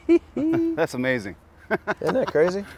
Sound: laughs

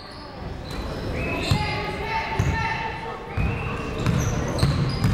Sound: people shouting in the crowd

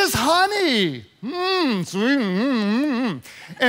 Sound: moaning

